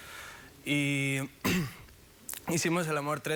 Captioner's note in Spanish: Carraspea